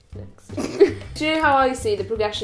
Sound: snickering

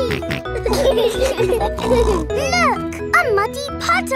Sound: laughing

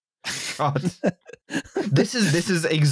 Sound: laughs

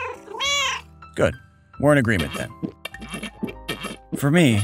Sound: meow

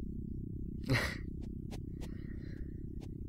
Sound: laughs

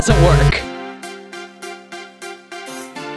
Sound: buzzer

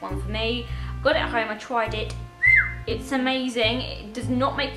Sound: whistles

